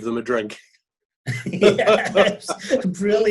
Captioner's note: both laughing